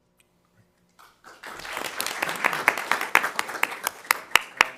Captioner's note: crowd clapping